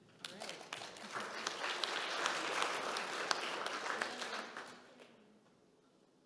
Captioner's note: audience clapping